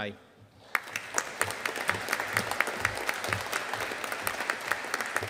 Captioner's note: audience applauding